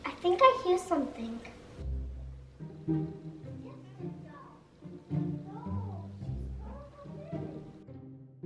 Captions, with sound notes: I think I hear something. (background chattering)